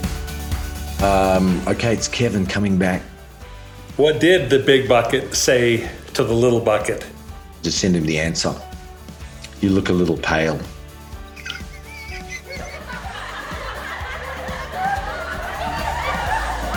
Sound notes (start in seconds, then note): 11.3 laughs; 13.2 crowd laughing